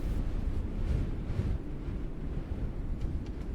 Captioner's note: wind blowing